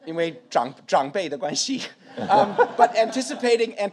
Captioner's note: speaks in foreign language; audience laughs